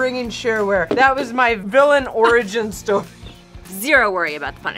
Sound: laughs

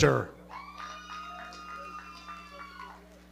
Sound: audience cheering and clapping

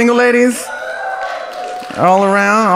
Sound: audience cheers

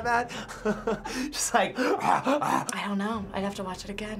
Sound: chuckles; beastly grunts

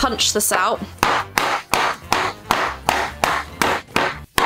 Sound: loud hammering

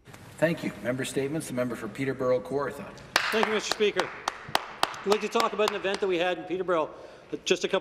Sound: applause

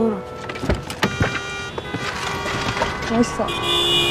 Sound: car horn honking

